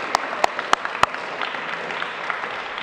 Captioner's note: applause